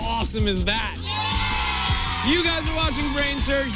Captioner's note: cheers and applause